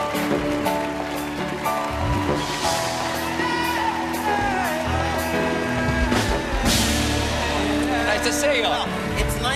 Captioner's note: applause